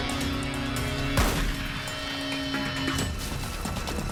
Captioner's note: gunshot